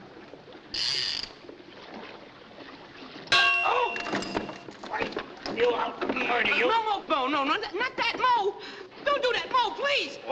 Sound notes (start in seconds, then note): 3.4 yells